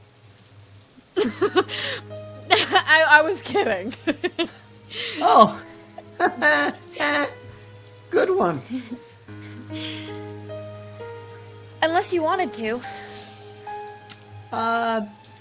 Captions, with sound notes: (Steph laughing) - I was kidding. - Oh. (Pete laughing) Good one. - Unless you wanted to. - Uh.